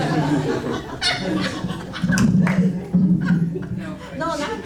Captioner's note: audience laughing